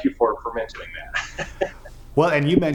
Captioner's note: laughing